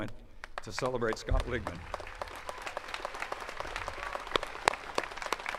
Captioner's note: attendees clapping